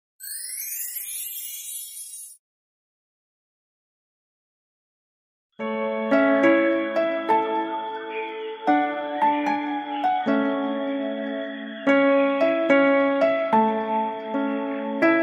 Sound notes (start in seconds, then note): 0.2 sparkling